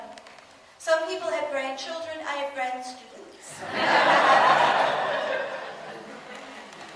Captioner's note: audience laughs